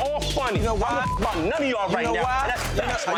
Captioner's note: beep